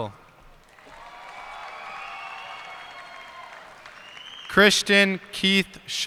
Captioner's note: cheers and applause